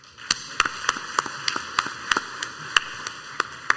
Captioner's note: crowd applauds